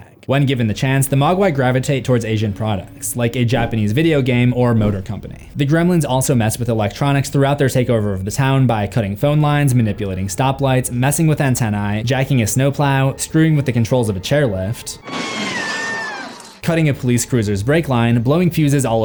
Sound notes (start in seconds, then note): 15.0 woman screaming